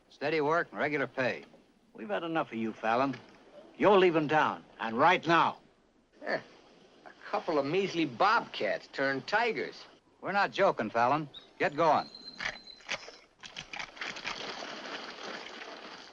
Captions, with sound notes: Steady work, regular pay. We've had enough for you, Fallon. You're leaving town, and right now! [ SCOFFS ] A couple of measly bobcats turned tigers. We're not joking, Fallon. Get going. [ RIFLE COCKS ]